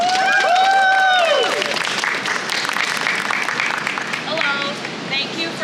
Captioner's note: crowd cheers